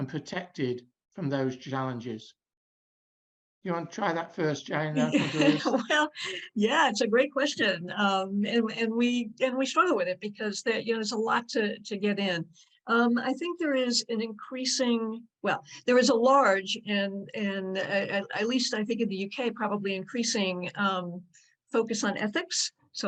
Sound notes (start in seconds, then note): 5.0 laughs